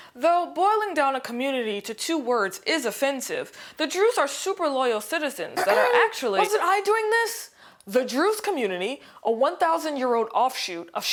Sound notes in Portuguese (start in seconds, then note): 5.6 pigarreando